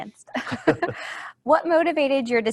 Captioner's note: they laugh